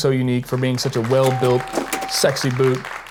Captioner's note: people clapping